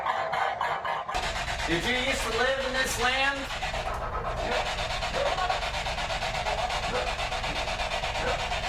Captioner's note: dog barking